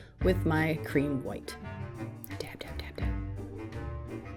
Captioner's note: whispers